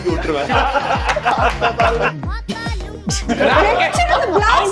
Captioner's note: laughing